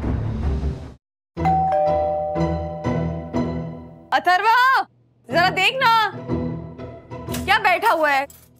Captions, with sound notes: [doorbell ringing] Atharva, answer the door! Why are you just sitting there?